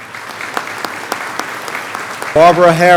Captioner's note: clapping